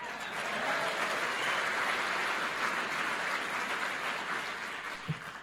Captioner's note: applause and cheers